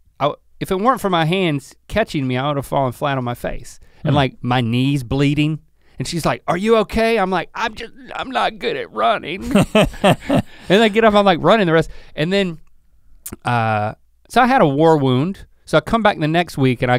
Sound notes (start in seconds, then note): 9.4 chuckles